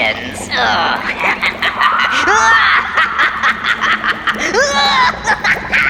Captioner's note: voice 2 evil laughing